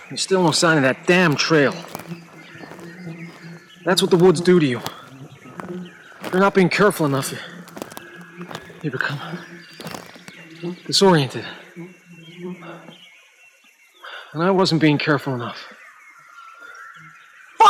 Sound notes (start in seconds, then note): 11.3 flies buzzing